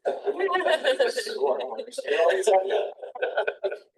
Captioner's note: all laugh